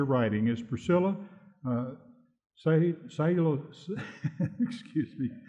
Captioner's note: laughs